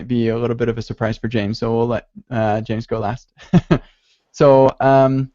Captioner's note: laughs